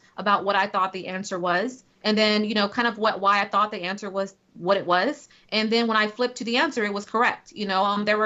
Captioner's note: none